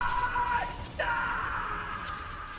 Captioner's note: intense screams